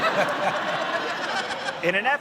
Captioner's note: laughter